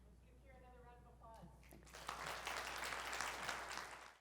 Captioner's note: applause